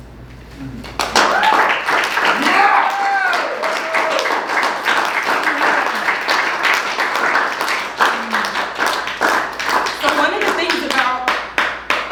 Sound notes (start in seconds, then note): 0.9 applause